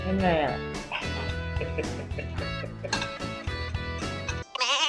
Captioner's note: laughter